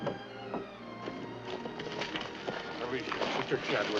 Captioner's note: bodies scrambling